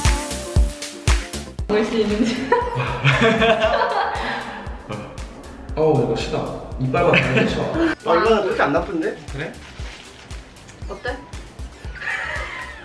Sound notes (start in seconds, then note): 2.5 deep breath